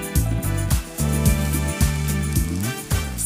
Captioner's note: pan sizzles; upbeat music